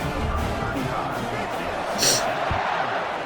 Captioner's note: crowd Noises